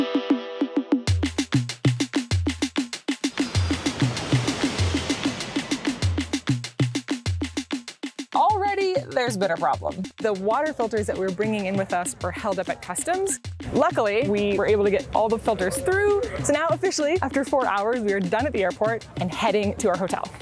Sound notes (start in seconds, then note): 3.4 plane engine roaring